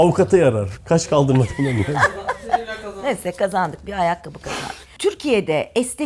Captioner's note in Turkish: kahkaha